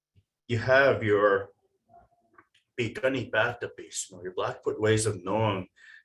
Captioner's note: foreign language